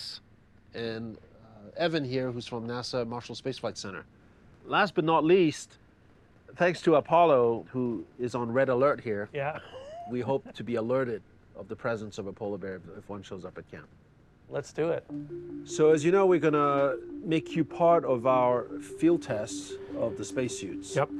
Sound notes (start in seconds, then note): 9.5 laughs